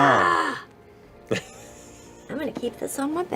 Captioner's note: laughs